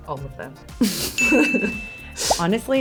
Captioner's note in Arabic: قرع الجرس